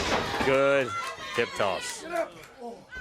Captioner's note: crowd cheering; crowd chatter